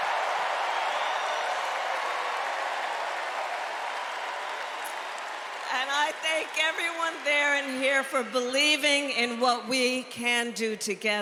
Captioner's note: cheers and applause